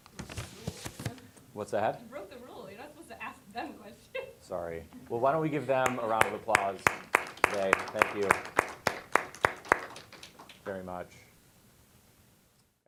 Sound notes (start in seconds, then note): 4.2 laughing; 5.8 applause